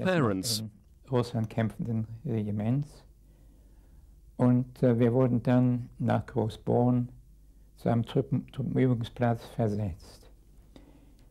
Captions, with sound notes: from your parents. (speaking in a foreign language)